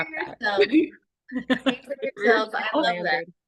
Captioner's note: laughter